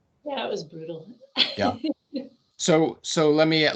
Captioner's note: laughing